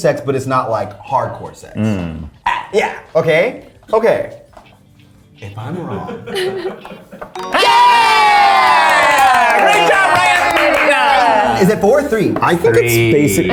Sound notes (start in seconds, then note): 5.7 laughs; 7.3 tones chiming